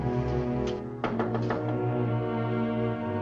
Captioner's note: knocking on door